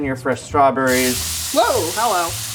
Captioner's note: skillet sizzling